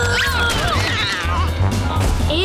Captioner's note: grunting; cat screeching